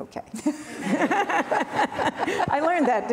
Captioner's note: laughing